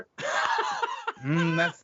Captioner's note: laughing